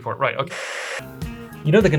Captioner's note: static